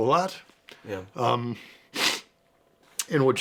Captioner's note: sniffs